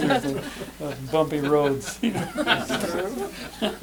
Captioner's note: laughter